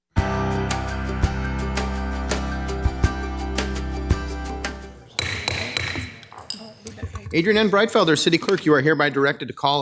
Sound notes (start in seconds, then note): 0.1 upbeat music; 5.1 gavel bangs